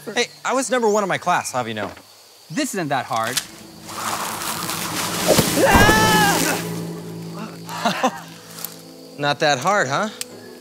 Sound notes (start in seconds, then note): 5.8 yelling